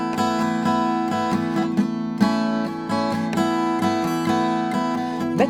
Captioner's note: clapping